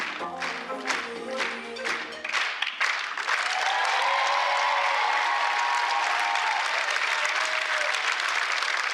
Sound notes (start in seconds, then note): 3.7 applause